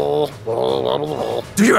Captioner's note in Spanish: ruidos de trasgo